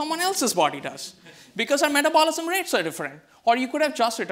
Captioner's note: audience laughs